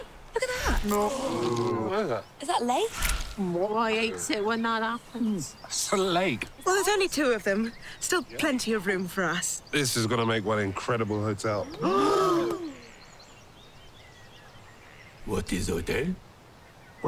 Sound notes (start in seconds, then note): 0.9 ghosts all gasp; 11.8 ghosts gasp